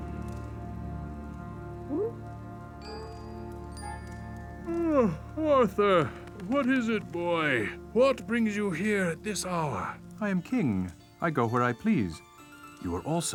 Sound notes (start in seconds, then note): 4.6 yawning